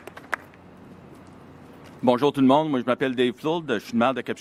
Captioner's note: applause